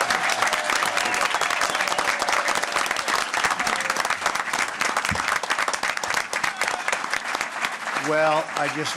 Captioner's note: applause